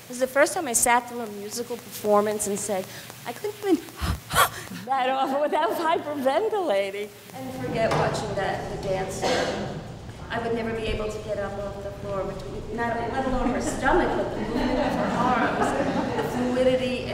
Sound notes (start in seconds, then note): 3.8 rhythmic heavy breathing